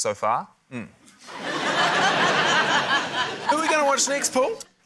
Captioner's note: laughter